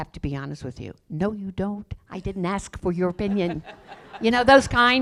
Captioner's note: laughter